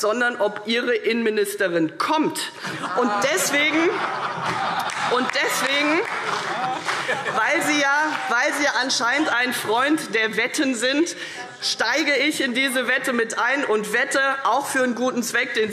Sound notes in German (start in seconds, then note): 2.7 Heiterkeit und Beifall CDU und BÜNDNIS 90/DIE GRÜNEN